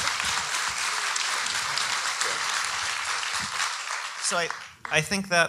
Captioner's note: audience applauding